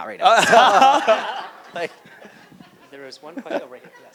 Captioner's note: mumurs and Laughs